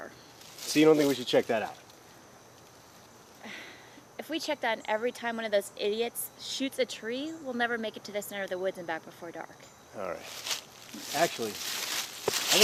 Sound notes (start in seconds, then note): 3.4 sigh